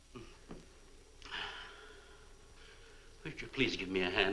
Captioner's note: Marlowe sighs